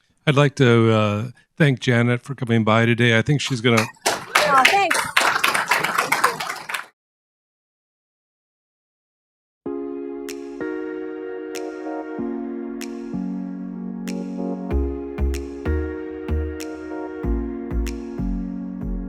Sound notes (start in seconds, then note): 5.1 applause